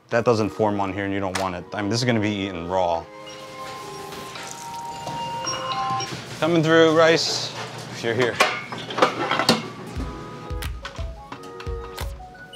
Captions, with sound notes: That doesn't form on here and you don't want it. I mean, this is gonna be eaten raw. [timer dinging] Coming through, rice. Here, here. [chill music]